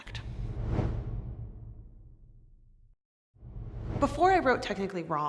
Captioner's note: air whooshing